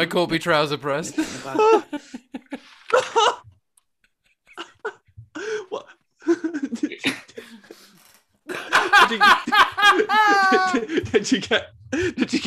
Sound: more laughter

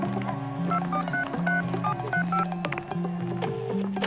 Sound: phone keypad bleeps; phone ringing

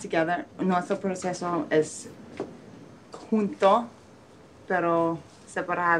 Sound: speaking in foreign language

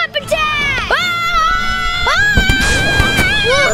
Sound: all yelling

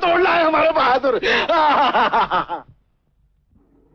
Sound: laughs

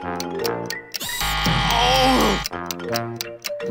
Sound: buzzing

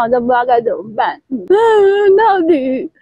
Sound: weeping

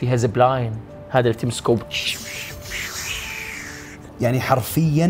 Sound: makes swish sound

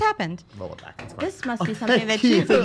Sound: clapping

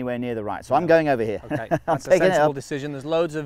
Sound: laughs

